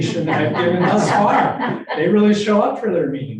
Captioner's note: group laughing